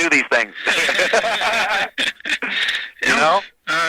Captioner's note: both laughing